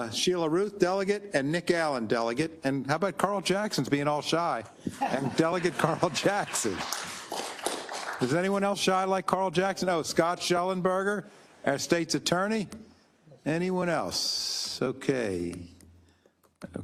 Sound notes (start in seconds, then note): 5.2 applause